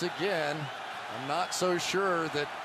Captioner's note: whistle blows